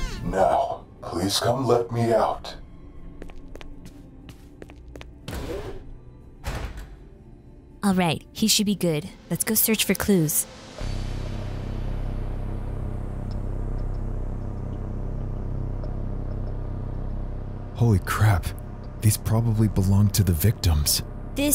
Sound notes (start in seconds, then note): 3.2 footsteps tapping; 10.3 ominous music